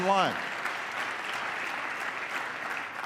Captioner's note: applause